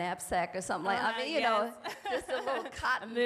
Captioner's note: laughing